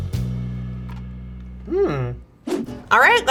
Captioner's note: crunches